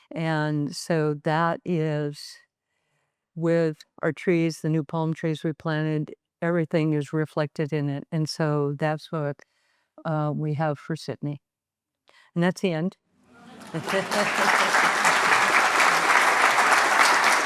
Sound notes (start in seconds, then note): 13.4 audience applauding; 13.4 chuckles